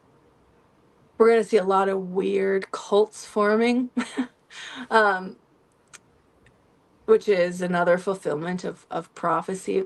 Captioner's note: laughter